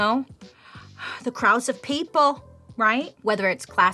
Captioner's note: gasping